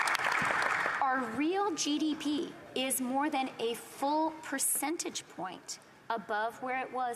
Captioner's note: applause